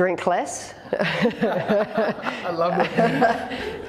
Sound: laughter

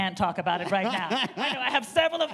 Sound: laughs

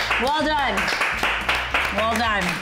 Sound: clapping; off screen applause

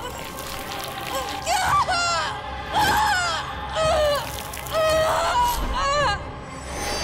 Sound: screaming

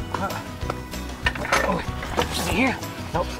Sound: grunting

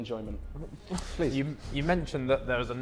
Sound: Vikram chuckling

